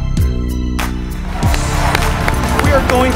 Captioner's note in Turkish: tezahürat, alkış